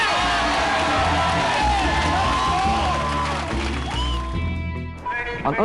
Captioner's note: cheering